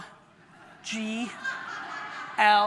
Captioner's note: audience laughs